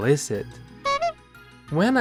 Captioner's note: honk